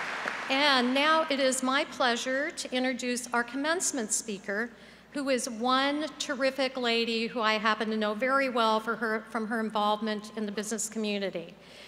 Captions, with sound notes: [APPLAUSE] AND NOW, IT IS MY PLEASURE TO INTRODUCE OUR COMMENCEMENT SPEAKER, WHO IS ONE TERRIFIC LADY WHO I HAPPEN TO KNOW VERY WELL FROM HER INVOLVEMENT IN THE